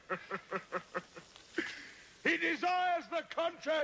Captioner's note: laughing